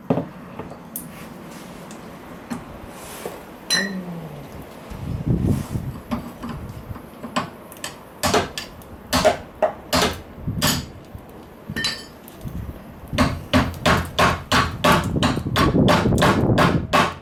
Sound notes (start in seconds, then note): 3.9 sigh